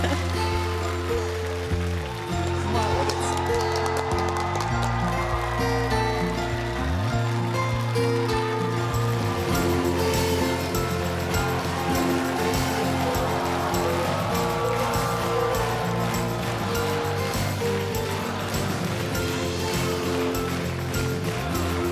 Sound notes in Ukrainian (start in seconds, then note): 4.2 оплески; 21.6 оплески